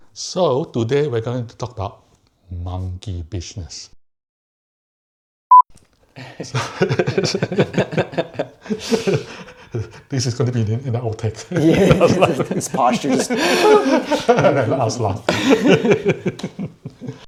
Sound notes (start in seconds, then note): 6.3 chuckles; 14.8 chuckles